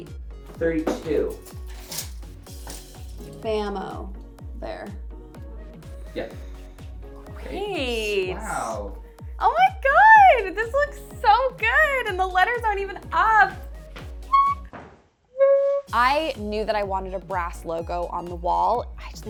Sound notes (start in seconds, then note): 14.3 squeaks excitedly